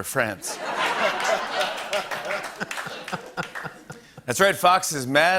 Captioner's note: laughter and applause